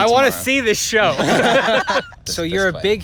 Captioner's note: laughter